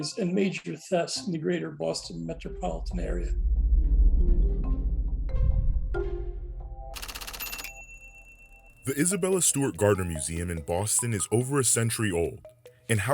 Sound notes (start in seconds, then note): 4.3 tense music; 7.0 typewriter clacking